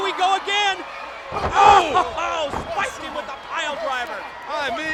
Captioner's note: laugh